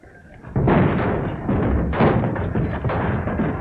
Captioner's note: explosion